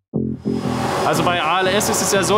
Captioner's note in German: Rauschen